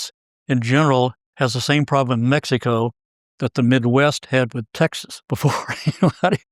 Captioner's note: laugh